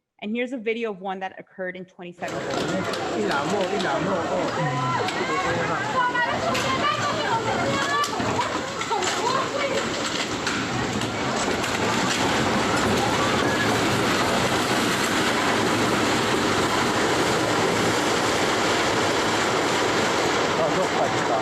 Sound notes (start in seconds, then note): 2.9 non-english speech